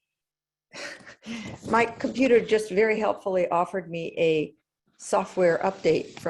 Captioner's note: laugh